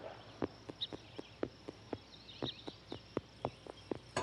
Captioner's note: birds chirping